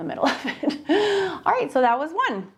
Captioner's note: laughs